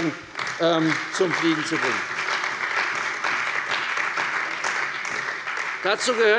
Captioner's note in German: Beifall bei der CDU und dem BÜNDNIS 90/DIE GRÜNEN